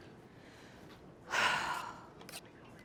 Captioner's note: sighs